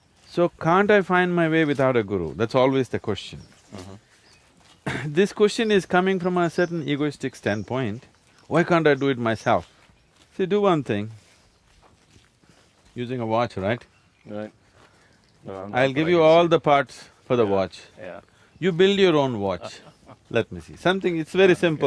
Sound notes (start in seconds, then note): 19.4 Shekhar Kapur Laughs; 19.4 謝哈爾·卡普爾笑